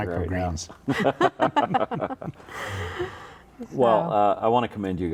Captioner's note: all chuckling